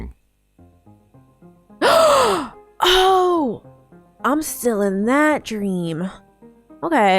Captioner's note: gasps